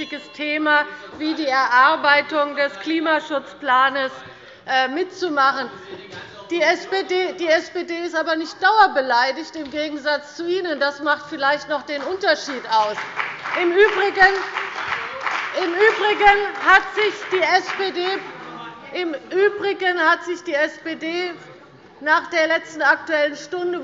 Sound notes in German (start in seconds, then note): 12.4 Beifall bei Abgeordneten der CDU und bei dem BÜNDNIS 90/DIE GRÜNEN